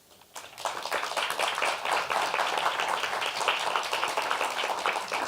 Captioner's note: applause